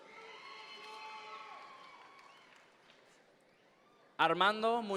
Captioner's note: audience members cheer